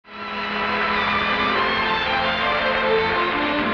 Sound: audience applauding

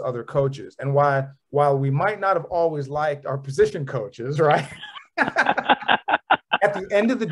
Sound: brief laughter

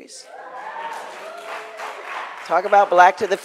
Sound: crowd applauds

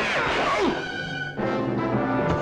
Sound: groans

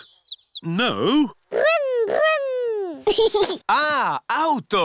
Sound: giggles

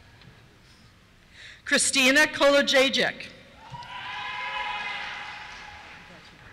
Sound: cheers

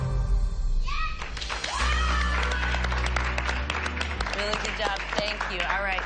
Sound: cheers and applause

